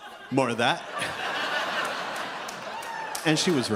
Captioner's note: audience laughs